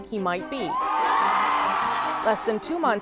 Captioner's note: cheering